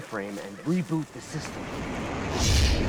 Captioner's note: air whooshes